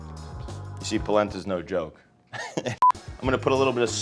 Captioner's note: laughs